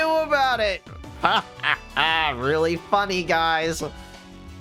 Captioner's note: laughs in denial of disclosure